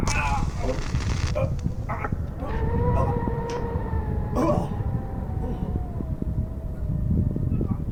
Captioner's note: portal sound; grunts